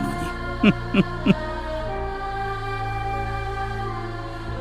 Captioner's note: giggle